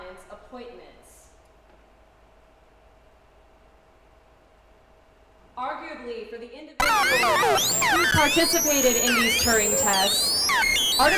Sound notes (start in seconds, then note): 6.8 electronic sounds continue